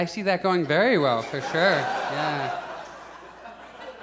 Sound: audience laughs

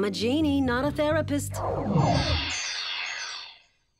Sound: smoke whooshes; buzzing

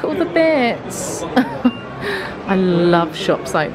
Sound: laughing

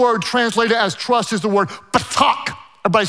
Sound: speaks in foreign language

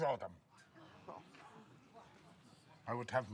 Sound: people scoff

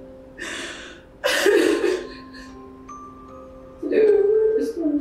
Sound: Kate crying

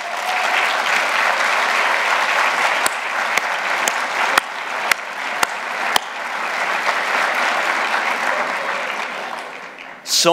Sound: applause

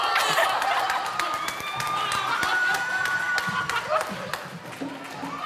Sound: audience laughs and cheers; laughs

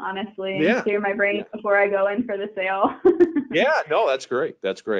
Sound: chuckling

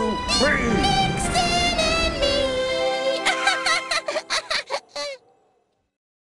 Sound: Wally laughs

